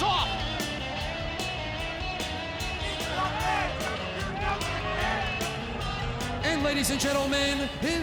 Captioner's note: crowd chatter